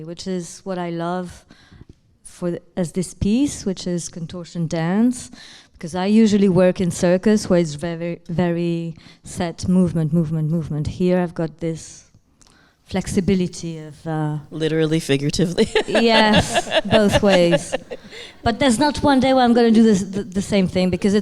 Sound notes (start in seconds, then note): 15.4 laughing